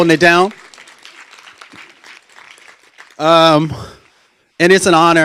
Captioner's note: applause